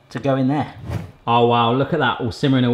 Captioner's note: air whooshing